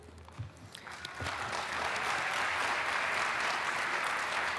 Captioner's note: applause